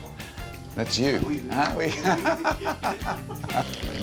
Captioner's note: laughs